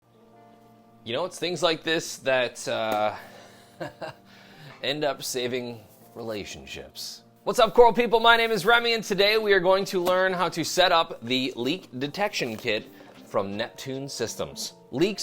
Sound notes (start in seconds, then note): 0.2 soft music; 3.2 chuckles